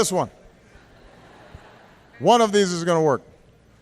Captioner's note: laughter